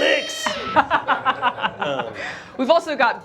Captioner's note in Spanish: risas